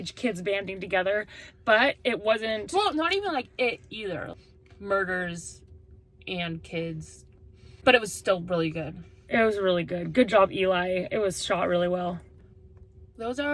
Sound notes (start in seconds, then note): none